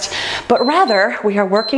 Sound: timer beeps

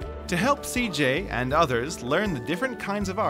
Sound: voiceover

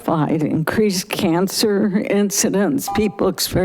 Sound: buzzer chiming

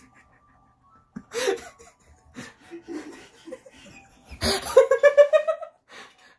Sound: laughing as the camera is being messed

